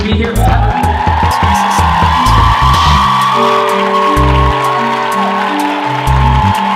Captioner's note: audience cheers and applauds